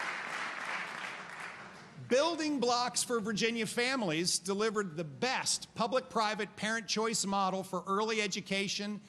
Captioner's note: applause